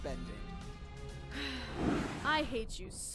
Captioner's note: sighs